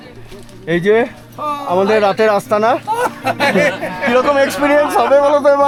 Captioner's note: loud laughter